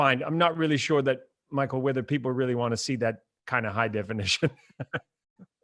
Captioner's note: laughs